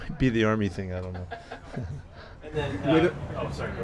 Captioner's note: reporter laughing